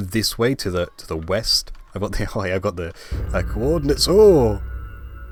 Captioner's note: Wither Summoning Noise